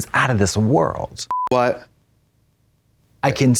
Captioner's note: colors beeping